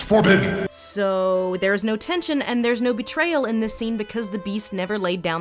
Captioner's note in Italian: voce fuori campo